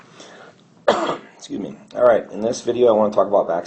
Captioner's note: coughs